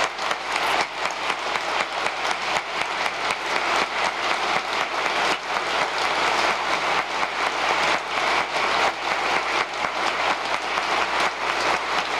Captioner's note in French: applause